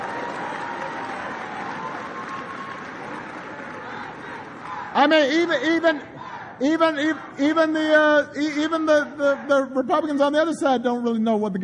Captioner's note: applause